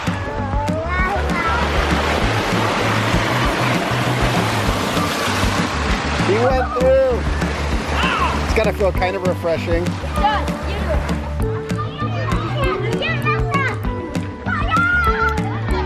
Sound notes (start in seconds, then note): 0.2 playful rhythmic music; 1.8 water rushing; 11.9 kids chattering playfully